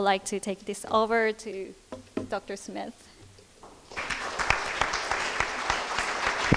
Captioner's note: crowd applause